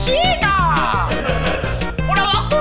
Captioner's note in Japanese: 笑い声